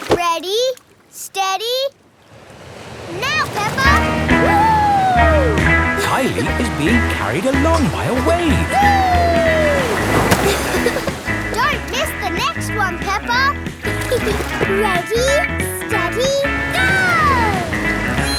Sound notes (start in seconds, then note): 13.8 giggles